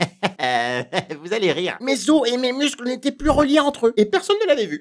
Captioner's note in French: rires